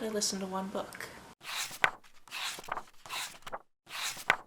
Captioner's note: pages turning